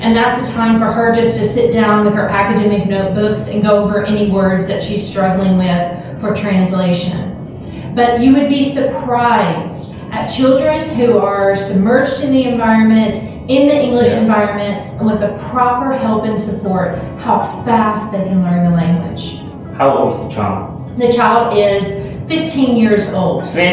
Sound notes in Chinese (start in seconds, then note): 12.3 英语